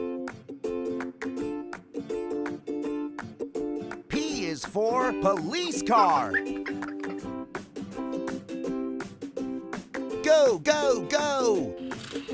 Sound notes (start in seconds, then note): 6.2 child giggling; 7.4 lighthearted music